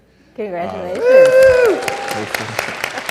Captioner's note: audience cheers